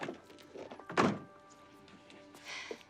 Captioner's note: door thuds; both sigh